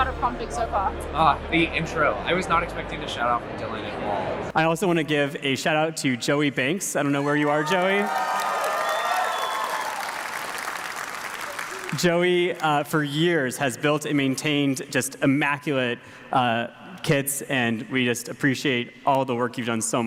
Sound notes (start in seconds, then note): 7.1 audience cheers